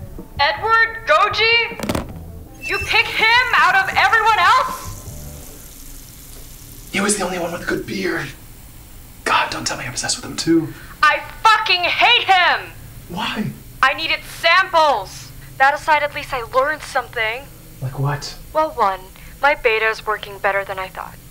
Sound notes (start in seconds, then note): 0.2 on phone; 6.8 whispering